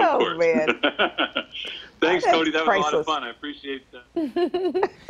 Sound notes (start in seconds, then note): 0.0 laughing